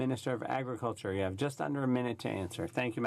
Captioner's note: speaking French